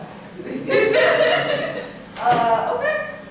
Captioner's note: laughter